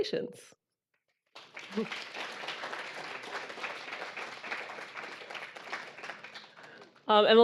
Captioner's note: audience applauding